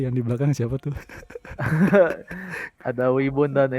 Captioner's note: laugh together